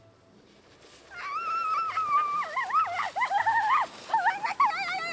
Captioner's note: is screaming ... again